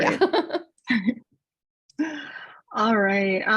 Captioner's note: laughter